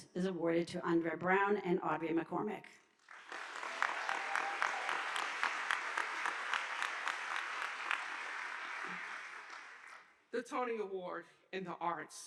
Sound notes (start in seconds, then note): 3.0 audience applauding